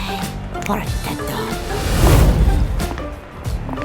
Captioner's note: portal opens